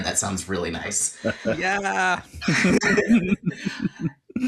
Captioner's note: laughter